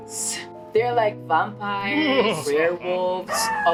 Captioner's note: evil laugh